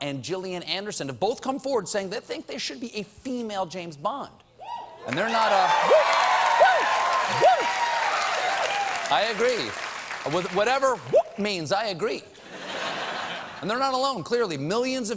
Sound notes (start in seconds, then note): 5.0 cheers and applause